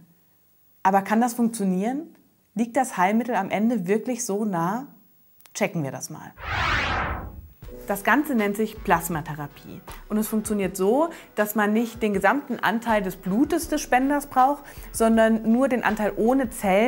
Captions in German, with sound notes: funktionieren? Liegt das Heilmittel am Ende wir- klich so nah? Checken wir das mal! [Soundeffekt] Das Ganze nennt sich Plasmatherapie. Und es funktioniert so, dass man nicht den gesamten Anteil des Blutes des Spenders brauch, sondern nur den Anteil ohne Zellen, der die